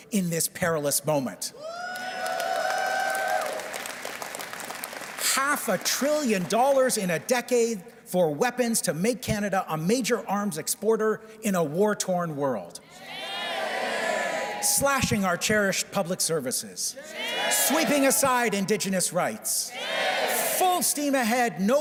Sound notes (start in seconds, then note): 6.0 cheers and Applause